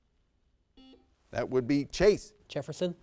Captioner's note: buzzer sounds